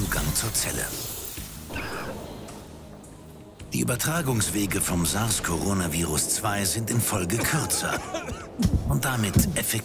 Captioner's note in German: Hustet